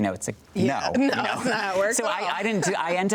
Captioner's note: both chuckling